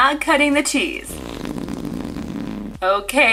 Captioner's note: raspberry blowing